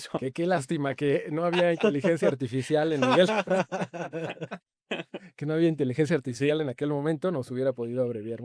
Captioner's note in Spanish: risas